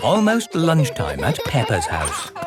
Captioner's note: laughing